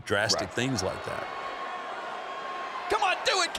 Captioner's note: crowd cheers